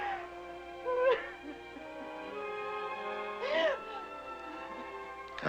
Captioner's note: woman Sobbing On-screen; sobbing Continues